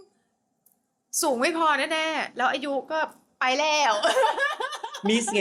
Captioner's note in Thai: เสียงหัวเราะ